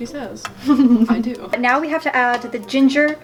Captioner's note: laughs